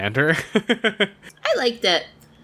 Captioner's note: laughs